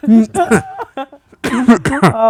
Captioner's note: laughing